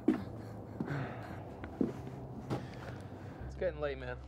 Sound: person laughing

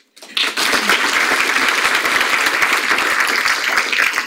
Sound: audience applauds

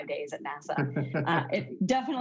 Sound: laughing

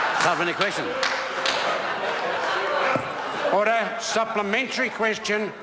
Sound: members laugh

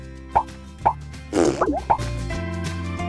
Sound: bronx cheer

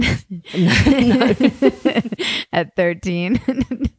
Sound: laughs

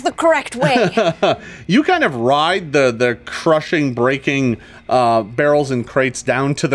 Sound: laughs

